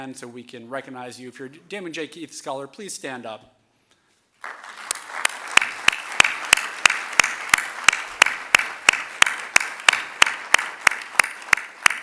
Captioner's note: applause